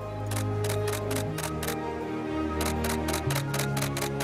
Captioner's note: camera clicks